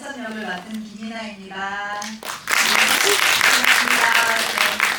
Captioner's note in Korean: 박수